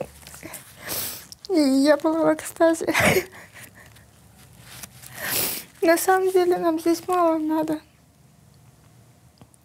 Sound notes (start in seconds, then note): 0.8 sniffs; 2.8 laughs faintly; 5.1 sniffs